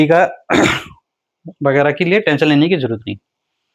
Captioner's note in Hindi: गला साफ़ करने की आवाज़